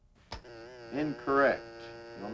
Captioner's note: buzzing